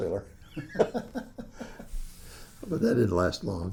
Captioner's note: laughs